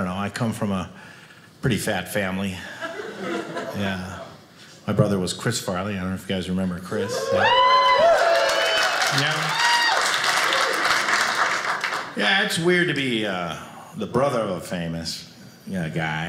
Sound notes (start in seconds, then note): 7.0 audience cheers